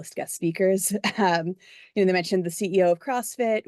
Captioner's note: laugh